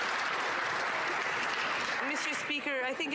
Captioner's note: some Applause